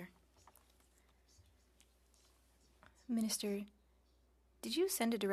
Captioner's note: speaking French